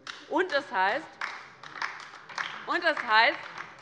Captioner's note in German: Beifall bei der LINKEN